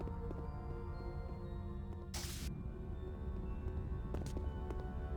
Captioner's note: static